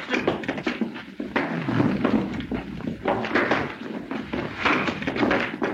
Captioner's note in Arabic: أصوات ارتطام الأجساد